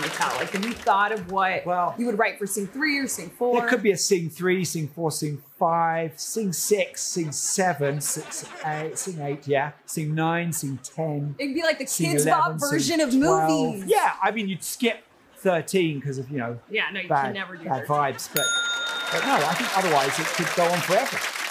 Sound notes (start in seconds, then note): 18.4 ding; 18.6 laughter and applause